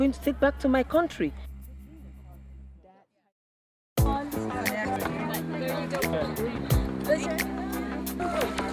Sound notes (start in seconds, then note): 2.3 lively chatter